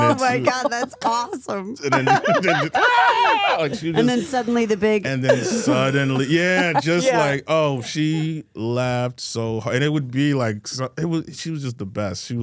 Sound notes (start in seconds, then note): 2.9 Michael screaming